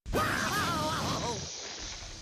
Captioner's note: Daffy crying